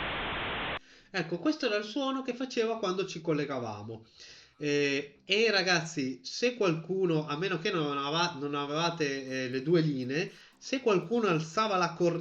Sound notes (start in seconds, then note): 6.6 boom